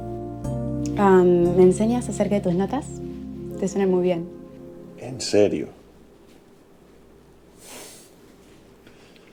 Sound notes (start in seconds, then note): 0.0 soft Music Playing; 7.6 inhaling